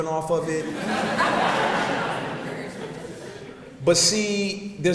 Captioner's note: audience laughs